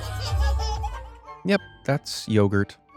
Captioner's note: kid laughs